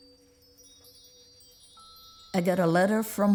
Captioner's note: chimes ring